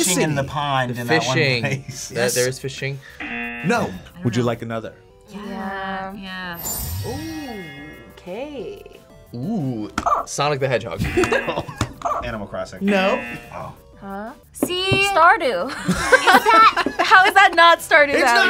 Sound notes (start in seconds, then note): 1.2 laughs; 3.2 buzzer; 11.0 buzzer barks; 11.1 buzzer; 11.1 laughs; 12.9 buzzer; 12.9 buzzer barks